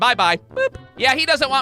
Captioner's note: boop!